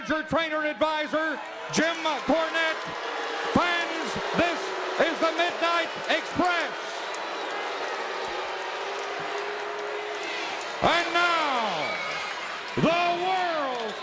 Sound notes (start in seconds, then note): 6.8 crowd jeering